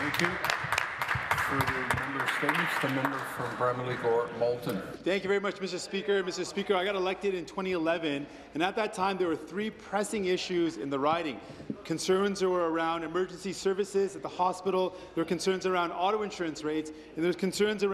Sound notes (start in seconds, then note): 5.1 applause